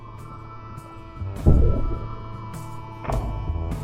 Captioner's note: bom; clonk